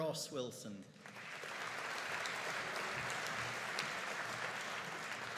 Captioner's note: audience applauding